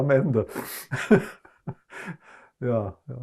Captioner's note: laughing